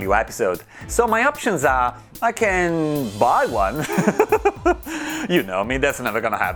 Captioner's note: laughs